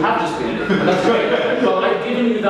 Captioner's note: audience laughing